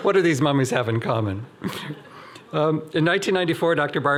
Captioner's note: laughing